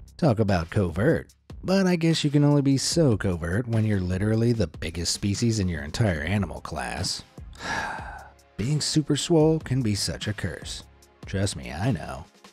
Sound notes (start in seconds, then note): 7.5 sighs